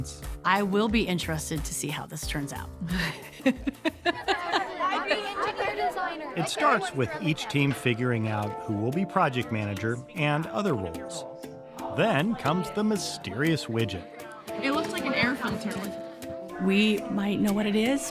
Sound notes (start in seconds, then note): 2.8 laughing; 11.0 upbeat music